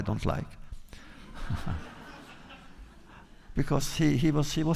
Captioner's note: laughter